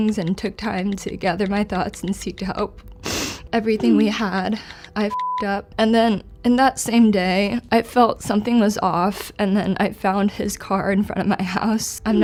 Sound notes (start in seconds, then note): 5.0 beep